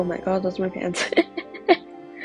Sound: laughs

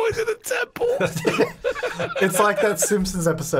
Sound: laughing

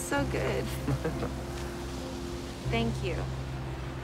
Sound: laughing

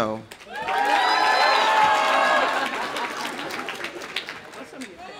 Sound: audience applauding; audience cheering

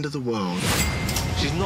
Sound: cash register dings

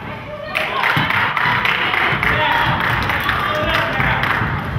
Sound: crowd claps

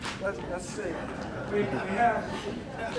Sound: crowd laughing

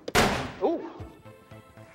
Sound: small explosion

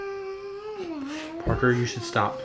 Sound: vocalizing

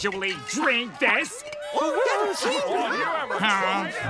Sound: murmurs in agreement

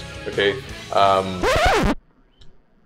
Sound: record scratch

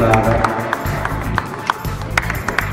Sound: applause

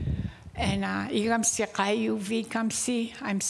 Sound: speaking indigenous language

